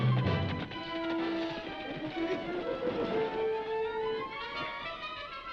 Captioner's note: horse hooves clopping; dramatic music; dramatic music